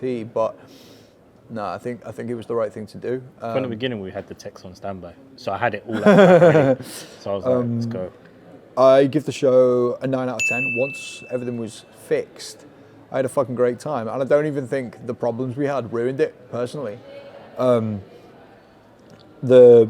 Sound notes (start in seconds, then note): 5.9 laughing; 10.4 bell dinging